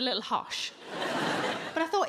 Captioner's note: audience laughing